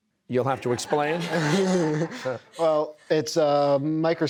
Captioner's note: laughter